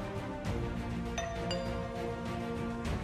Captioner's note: doorbell